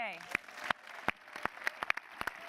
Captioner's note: applause